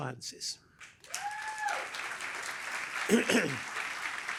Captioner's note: applause